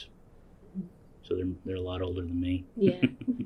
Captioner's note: laughs